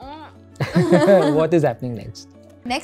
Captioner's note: laughs